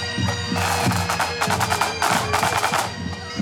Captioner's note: lively chatter